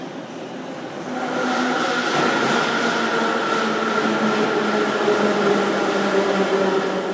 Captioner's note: arrival of train at the station